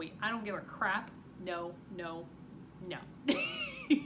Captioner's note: chuckles